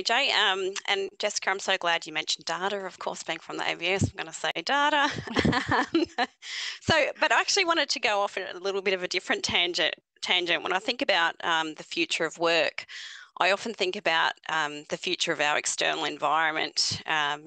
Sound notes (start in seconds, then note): 4.9 laughing